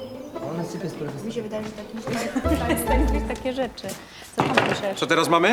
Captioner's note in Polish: przyciszone rozmowy